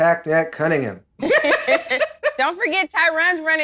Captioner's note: laughing